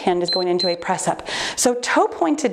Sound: timer beeps

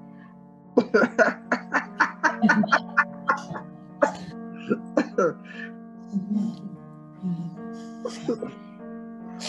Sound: laughter

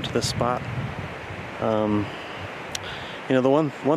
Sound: wind whooshing

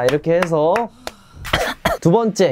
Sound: choking

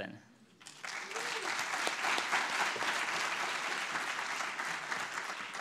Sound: audience cheering and clapping

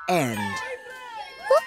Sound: shouting

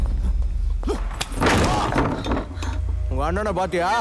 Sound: door pushed open

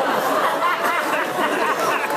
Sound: laughs

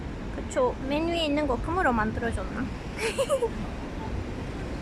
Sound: laughing

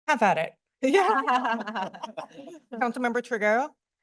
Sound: laughter

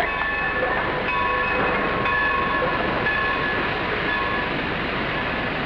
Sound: train bells continue

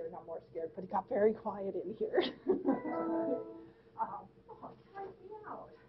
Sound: laughing

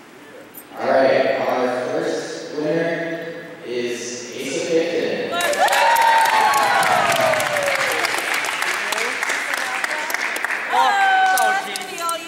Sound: applause

